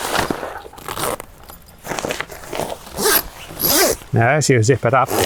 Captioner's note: zipper gliding